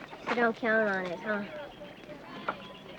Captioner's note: birds chirping